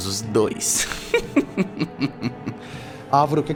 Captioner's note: chuckling